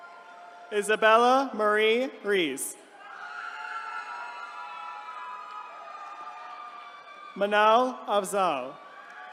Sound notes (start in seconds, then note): 2.9 attendees cheering